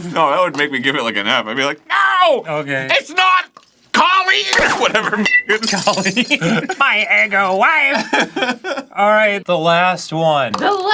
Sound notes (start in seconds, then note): 5.7 laughing